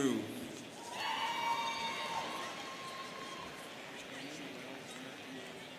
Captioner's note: students cheering